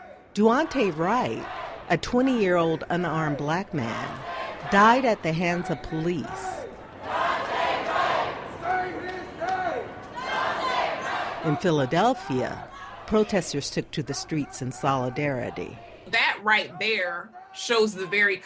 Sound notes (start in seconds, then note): 6.3 sounds of crowds protesting and shouting, "Say his name! Daunte Wright!"